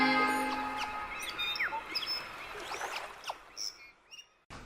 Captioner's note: birds singing